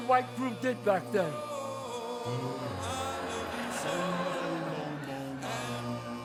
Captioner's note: audience laughs